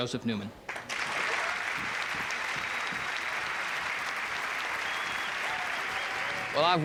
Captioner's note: crowd clapping; crowd cheering